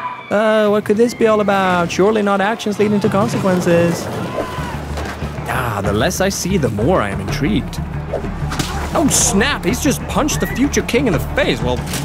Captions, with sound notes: Oh no, what could this be all about? Surely not actions leading to consequences. (shouting) Ah, the less I see, the more I’m intrigued. Oh snap, he’s just punched the future king in the face! Well